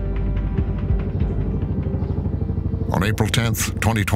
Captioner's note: helicopter whirring